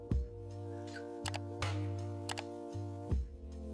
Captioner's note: clicking